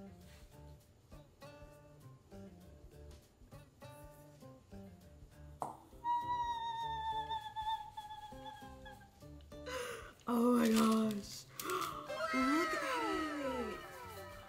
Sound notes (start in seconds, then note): 0.2 bright music continues; 6.1 squeals